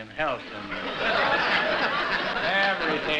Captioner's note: laughter